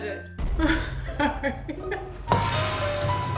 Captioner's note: laughing; dramatic music